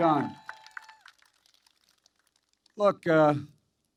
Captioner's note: applause